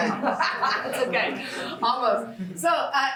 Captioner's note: chuckles